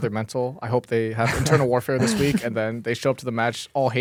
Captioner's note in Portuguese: risos